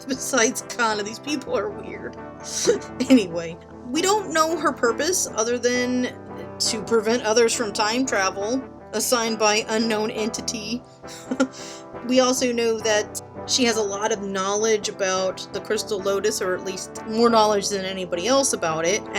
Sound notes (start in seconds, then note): 2.5 laughing; 11.1 giggles